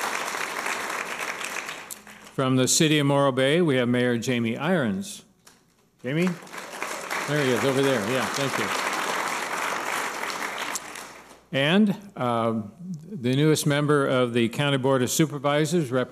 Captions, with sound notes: From the city of Morro Bay, we have Mayor Jamie Irons. Jamie? There he is, over there, yeah, thank you. (applause) And the newest member of the County Board of Supervisors,